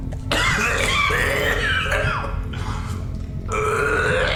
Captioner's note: retching